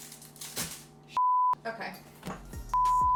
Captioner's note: beep; beep